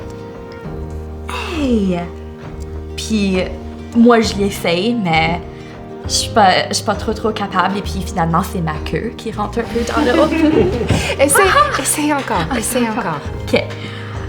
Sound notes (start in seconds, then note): 9.7 the group laughs